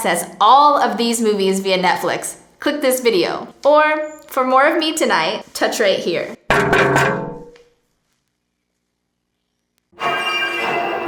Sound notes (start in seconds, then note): 6.6 tapping on screen; 10.0 eerie music